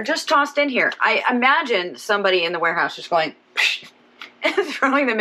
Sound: vocalizes

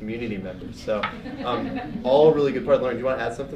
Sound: people laughing

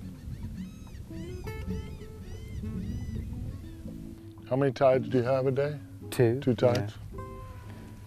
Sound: nature sounds

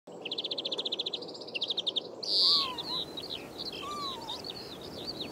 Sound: birds singing

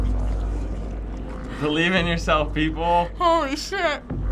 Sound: none

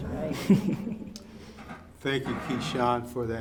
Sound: laughs

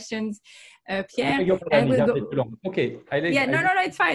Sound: speaking in foreign language

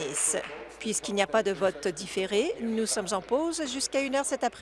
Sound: applause

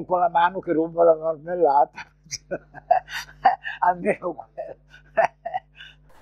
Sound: laughter

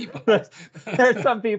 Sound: laughter

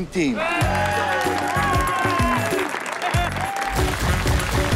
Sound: cheering and clapping; bold music

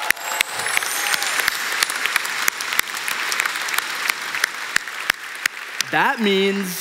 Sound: cheering

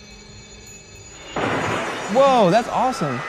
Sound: glass cracks

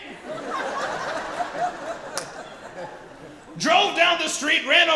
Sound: audience laughs

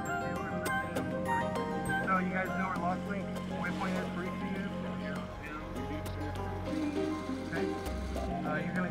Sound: radio chatter

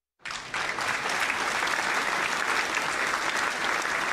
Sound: applauding

